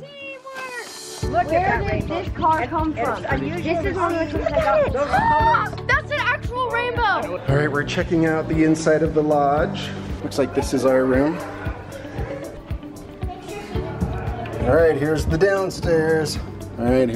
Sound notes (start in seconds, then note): 4.0 murmurs; 12.0 upbeat music